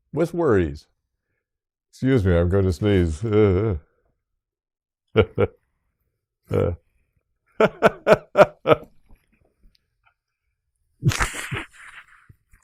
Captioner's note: laughs